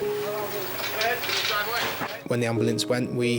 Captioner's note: group chattering